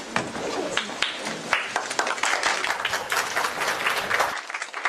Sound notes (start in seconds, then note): 0.7 applause